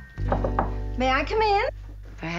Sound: door knock

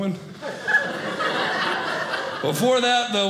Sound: audience laughing

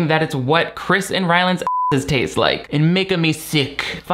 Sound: beep

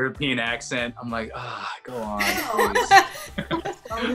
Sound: sigh

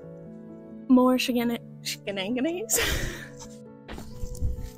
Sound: laughter

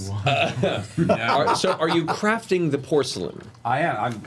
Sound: laughs

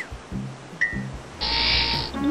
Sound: buzzing noise

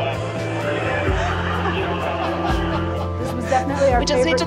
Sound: audience laughing

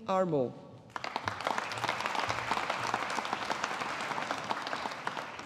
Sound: audience applauding

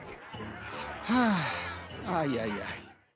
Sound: sighing

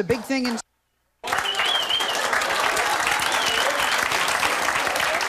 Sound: audience clapping

